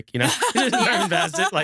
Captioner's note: laughing